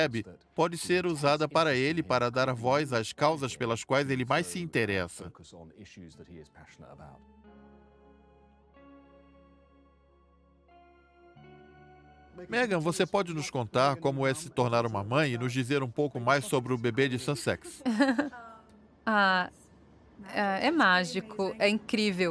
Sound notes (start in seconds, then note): 7.9 melancholic music; 17.8 laughs